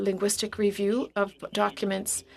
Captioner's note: speaking French